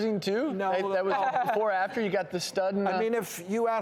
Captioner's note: laughing